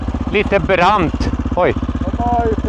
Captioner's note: speaking in foreign language